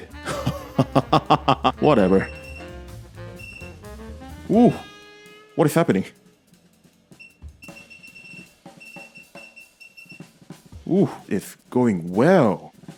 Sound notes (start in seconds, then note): 0.2 laughter; 7.6 power supply dial beeps